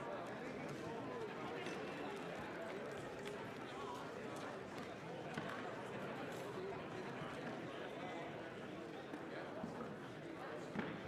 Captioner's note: crowd Noise